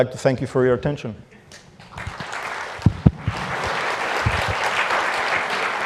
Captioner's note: applause